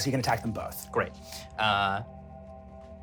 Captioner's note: none